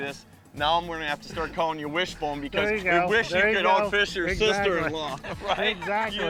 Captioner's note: laughing